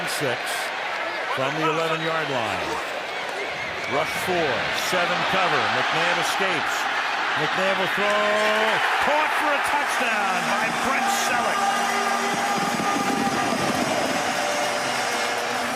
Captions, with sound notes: Second down and 6 from the 11-yard line. Rush four. Seven cover. And McNabb escapes. McNabb will throw. Caught for a touchdown by Brent Celek. [cheering]